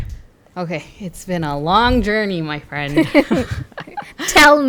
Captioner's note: laugh